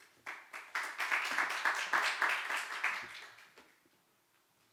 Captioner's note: audience applauding